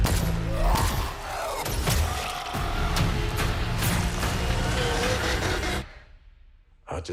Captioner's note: screaming